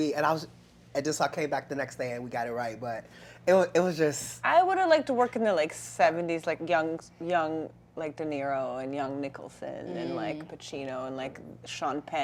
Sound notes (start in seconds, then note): none